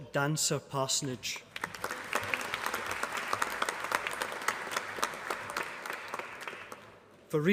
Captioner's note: applause